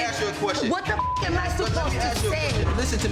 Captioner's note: beep